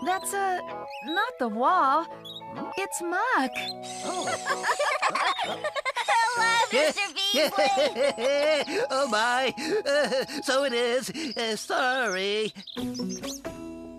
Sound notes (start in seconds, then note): 4.6 laughing; 8.0 laughing